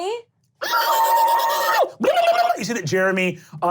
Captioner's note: glottal shrieking